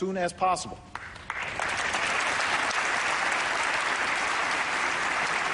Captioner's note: applause